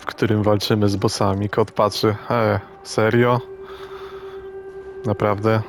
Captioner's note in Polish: wciągnięcie powietrza